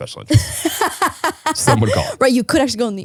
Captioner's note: laughing